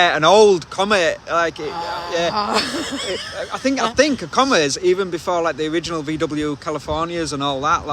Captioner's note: laughing